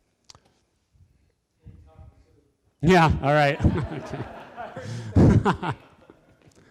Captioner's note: laughter